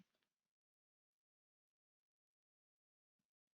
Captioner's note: silence